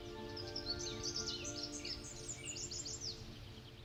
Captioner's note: birds chirping